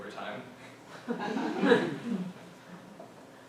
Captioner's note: laughter